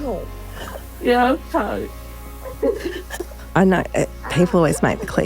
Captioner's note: girl giggling